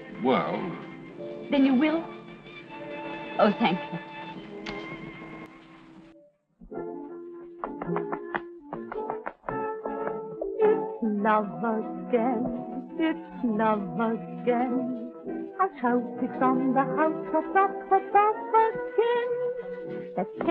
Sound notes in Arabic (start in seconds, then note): 6.8 موسيقى أوركسترالية مشرقة; 8.7 صوت نقر الأحذية